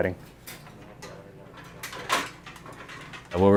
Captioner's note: tools rustling